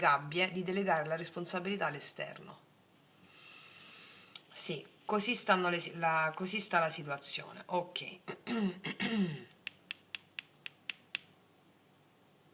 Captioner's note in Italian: schiarire la voce